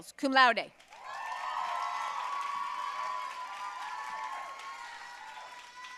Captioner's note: audience cheering and applauding